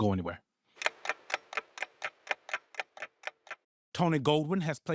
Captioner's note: clock ticking